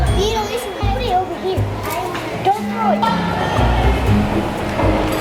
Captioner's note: children talking